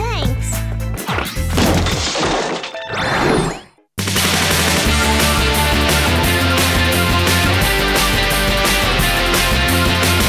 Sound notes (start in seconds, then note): 1.4 crashes; 8.1 theme music playing